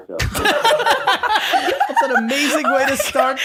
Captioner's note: all laughing loudly